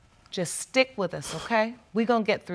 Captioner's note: exhales sharply